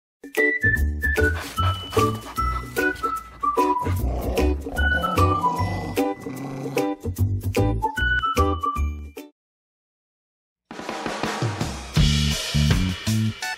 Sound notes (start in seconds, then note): 0.3 soft music; 1.1 dog panting; 12.0 upbeat music